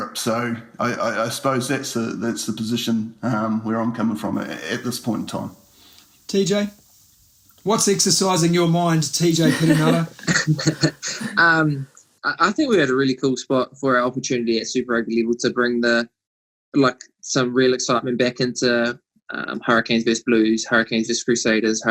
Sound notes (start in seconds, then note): 9.2 laughs